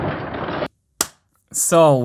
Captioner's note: clap